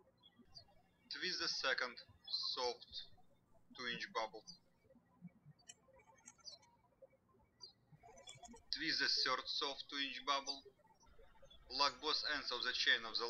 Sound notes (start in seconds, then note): 0.0 birds chirping; 5.1 birds chirping